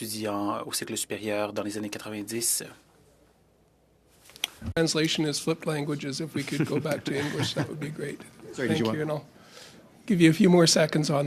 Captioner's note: speaking French